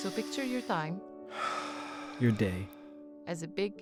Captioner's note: inhaling; exhaling